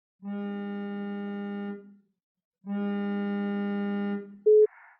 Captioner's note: phone